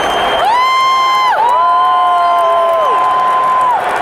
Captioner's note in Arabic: هتاف